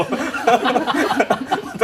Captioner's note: laughter